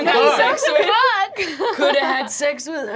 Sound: laughing

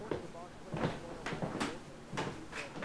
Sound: footsteps approaching

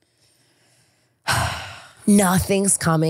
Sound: sighs

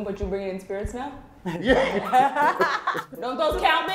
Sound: laughter

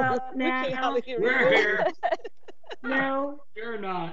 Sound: members laughing

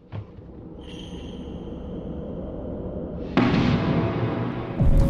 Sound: wind howling; echoing thud

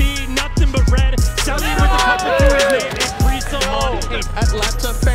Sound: group cheering

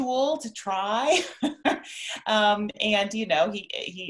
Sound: laughs

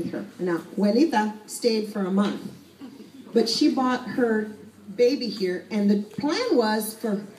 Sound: spanish

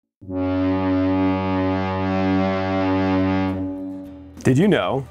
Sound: ship horn blowing

